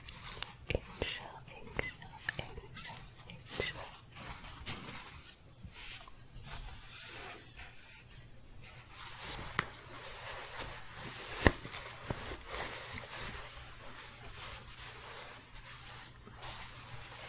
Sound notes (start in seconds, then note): 4.2 scratching and shuffling